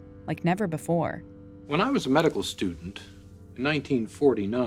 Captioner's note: soundbite of documentary, "the silent scream"